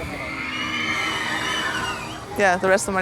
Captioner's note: kids on the ride scream